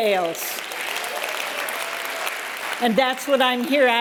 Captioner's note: applause